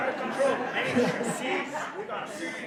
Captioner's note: laughing